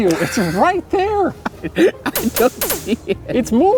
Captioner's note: laughs